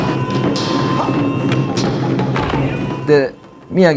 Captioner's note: sighs; speaking in foreign language